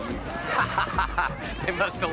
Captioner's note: laughing